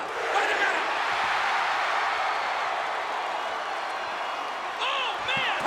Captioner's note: audience cheers